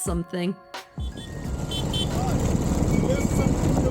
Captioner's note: horn beep